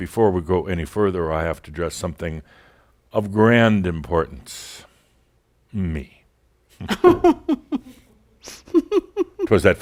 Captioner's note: laughs